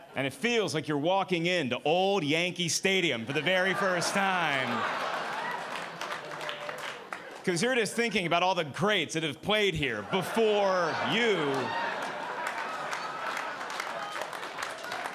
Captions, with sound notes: And it feels like you're walking in the old Yankee Stadium for the very first time, (audience laughing) 'cause here it is thinking about all the greats that have played here before you. (audience applauding)